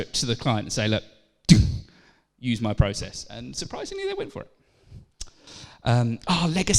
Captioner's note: thud